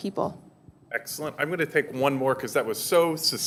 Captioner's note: voiceover